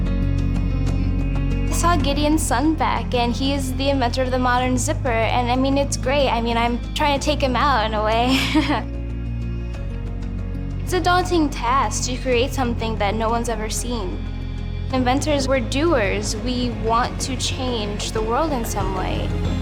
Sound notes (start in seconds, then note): 8.2 laughs